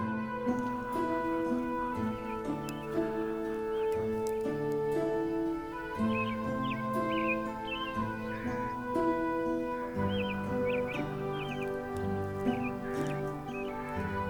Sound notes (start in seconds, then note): 0.1 somber instrumental music continues; 2.4 birds chirp; 2.4 somber music continues